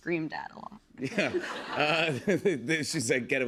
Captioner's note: laughter